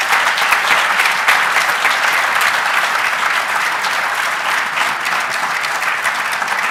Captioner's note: cheers and applause